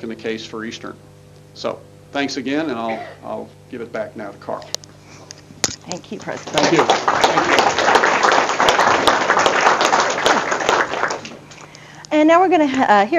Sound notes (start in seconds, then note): 6.1 audience applause